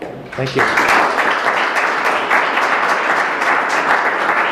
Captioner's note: applause